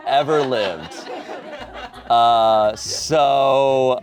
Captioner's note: audience laughing